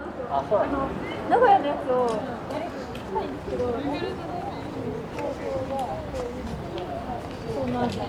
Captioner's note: city hustle and bustle at Asakusa, Japan